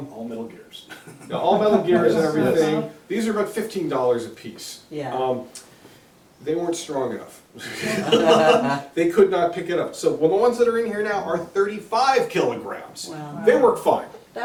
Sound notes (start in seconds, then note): 7.6 laughter